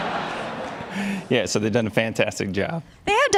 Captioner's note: audience laughter